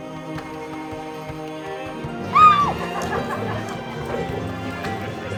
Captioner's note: whoops